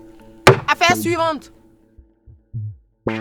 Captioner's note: hammer strike